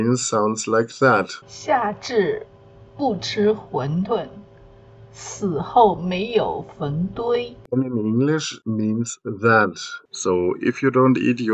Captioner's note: speaks in Mandarin